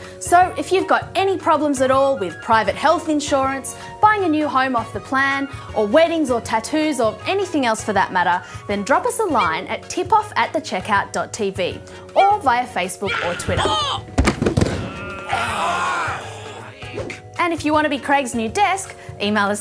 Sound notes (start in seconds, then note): 14.1 thud!; 16.6 groaning